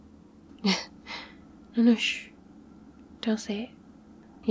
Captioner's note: laughs